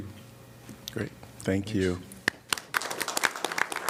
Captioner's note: applause